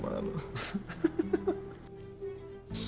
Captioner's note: laughs